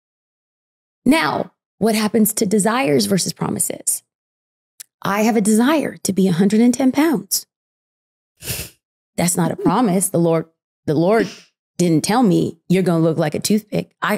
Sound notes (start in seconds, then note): 7.3 giggling